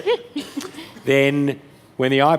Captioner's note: laughter